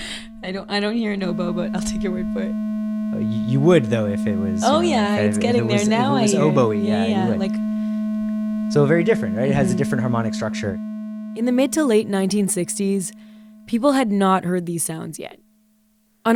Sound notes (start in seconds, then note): 0.3 laughs; 4.5 tone playing